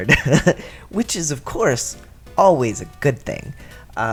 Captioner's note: sarcasm